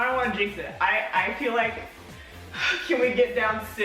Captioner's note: sighs